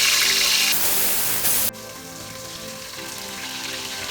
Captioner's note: sizzling